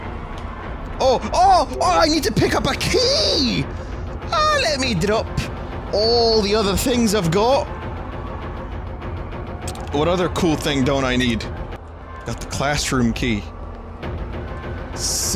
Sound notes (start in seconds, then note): 1.8 Scottish accent; 9.9 normal voice